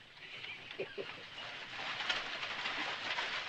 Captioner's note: laughing